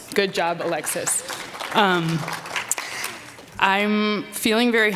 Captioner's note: applause